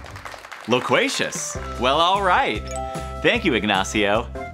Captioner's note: applause